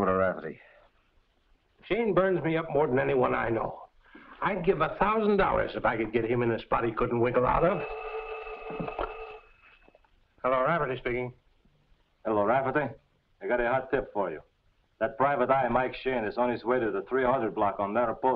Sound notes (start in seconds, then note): 7.4 telephone rings; 11.7 faking accent